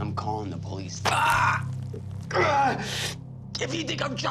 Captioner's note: yelps